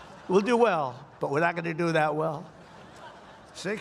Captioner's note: laughter